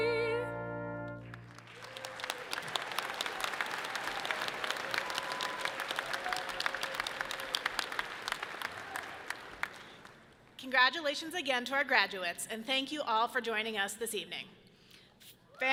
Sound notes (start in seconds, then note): 1.2 audience clapping loudly